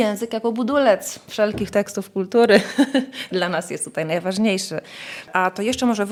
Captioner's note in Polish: śmiech